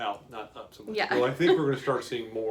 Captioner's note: laughs